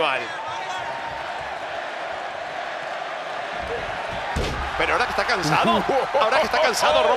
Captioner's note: applause